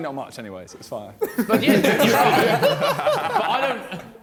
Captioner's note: all laughing